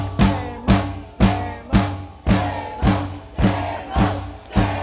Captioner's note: chanting